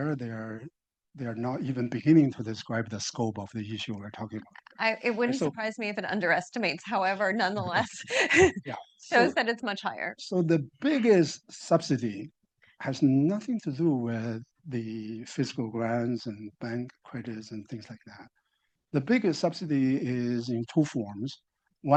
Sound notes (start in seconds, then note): 7.5 chuckles